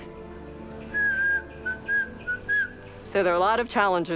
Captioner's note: whistling